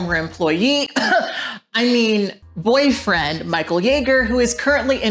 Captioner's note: coughs lightly